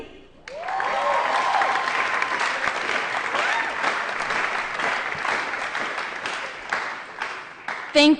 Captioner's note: applause & Cheering